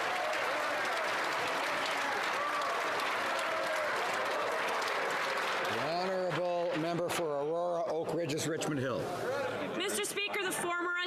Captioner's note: some Applause